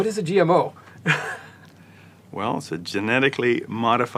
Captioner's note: laugh